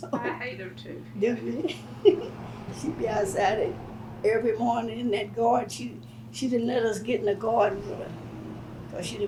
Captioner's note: laughs